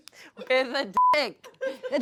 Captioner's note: beep